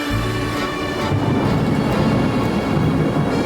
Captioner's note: thunder